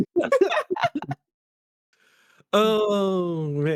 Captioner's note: all laughing